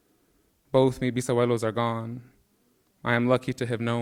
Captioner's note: speaking in Spanish